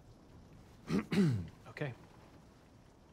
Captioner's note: clears throat